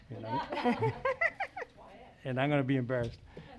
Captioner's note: laughs